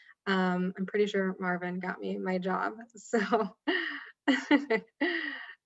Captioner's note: laughs